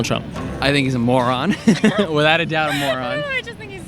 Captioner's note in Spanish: Todos ríen